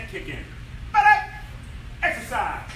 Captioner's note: enthusiastic shouting